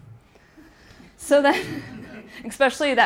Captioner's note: audience laughing